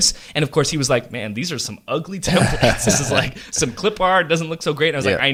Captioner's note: laughs